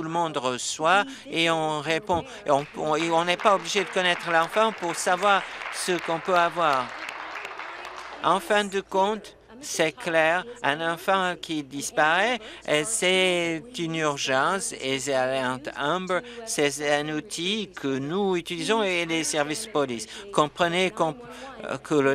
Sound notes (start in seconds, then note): 9.0 applause